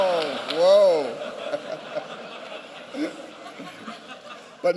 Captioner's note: laughter